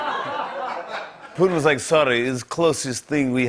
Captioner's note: laughter; Russian accent